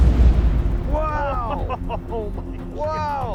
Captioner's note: laughing